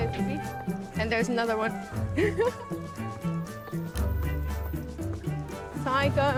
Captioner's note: laughs